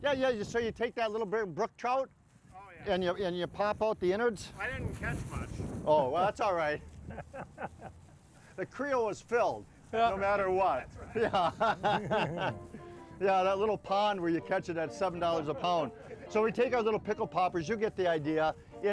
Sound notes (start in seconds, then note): 5.3 laughing; 11.0 all laughing